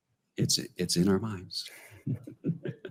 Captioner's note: laughs